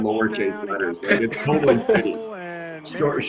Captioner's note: all laugh